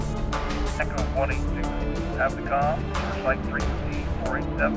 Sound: radio chattering

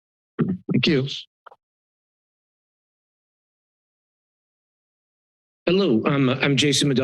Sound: silence

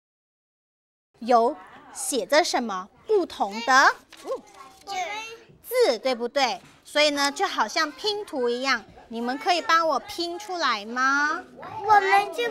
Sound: speaking foreign language

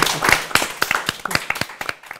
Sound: applause

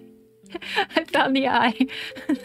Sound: laugh

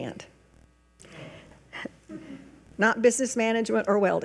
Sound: regent speaking faintly; regents chuckling

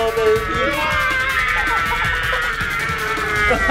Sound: screaming

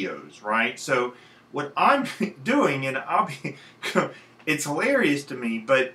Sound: chuckling

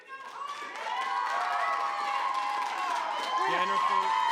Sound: audience cheering

